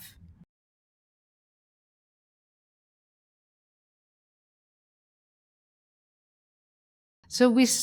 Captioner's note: silence